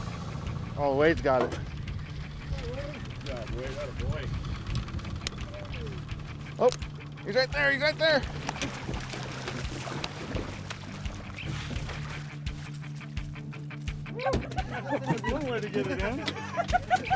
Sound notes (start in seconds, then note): 10.8 fish splashing; 12.5 laughing